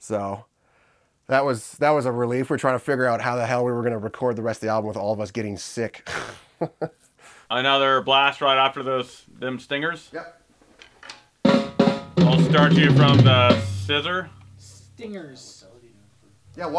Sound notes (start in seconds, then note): 6.2 laughs; 11.4 drums playing